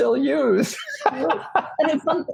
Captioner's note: laughs